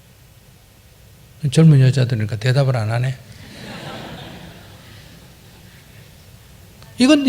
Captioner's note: audience Laughter